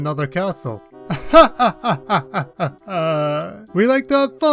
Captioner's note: laughs